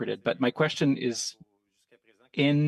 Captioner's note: speaking French